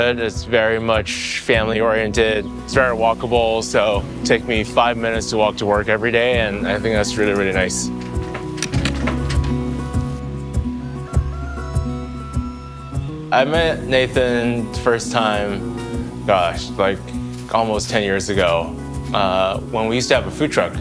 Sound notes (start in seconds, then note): 8.0 upbeat music; 10.8 rooster crowing